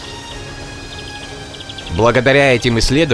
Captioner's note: background sound: rustling ancient forests, mysterious sounds of nature